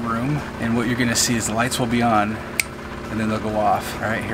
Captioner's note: snap